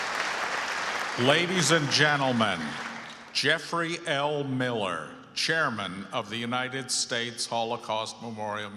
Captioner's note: applause